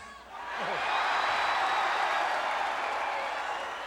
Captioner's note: crowd cheering